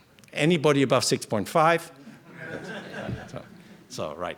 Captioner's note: laughter